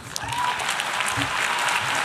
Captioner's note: applause and cheers